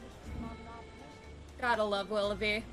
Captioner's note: laughs